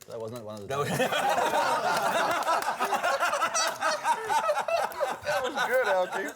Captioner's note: laughter